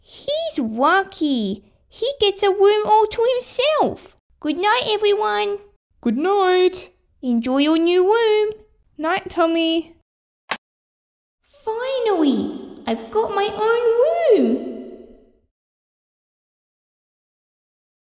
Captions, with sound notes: He's lucky...! He gets a room all to himself! Goodnight everyone! Goodnight! Enjoy your new room Night Tommy (Click!) Finally! I've got my own room!